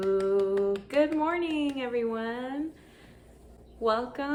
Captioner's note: applause